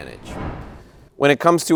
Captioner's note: whooshing sound